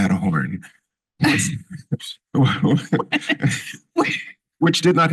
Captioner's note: laughter